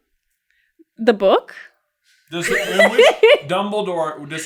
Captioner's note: laughs